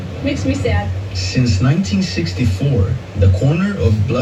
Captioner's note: on TV